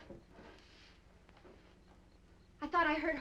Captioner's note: insects chirping